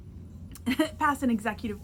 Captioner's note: chuckles